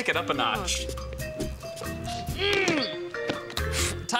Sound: sniffs

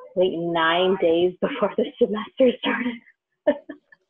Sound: laughing

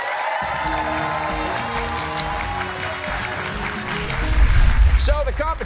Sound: cheers and applause

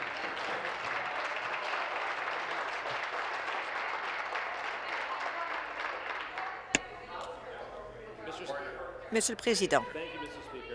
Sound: applause

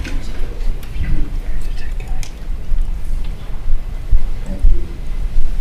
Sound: director speaking faintly

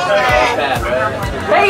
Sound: group laughs

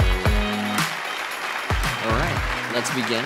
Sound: applause

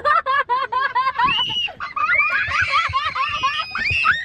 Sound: girl squeals

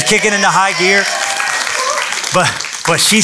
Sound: applause

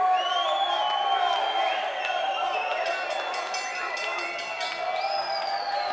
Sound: whistling

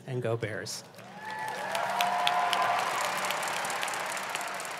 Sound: audience applause

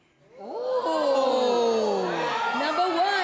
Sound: audience groans

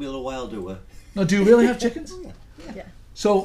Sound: voiceover

